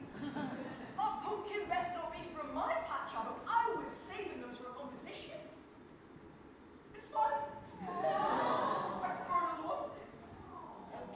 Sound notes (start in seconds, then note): 7.2 audience awws